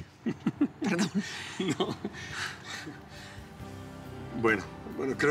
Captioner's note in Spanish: Risas